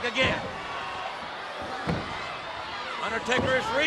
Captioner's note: crowd yelling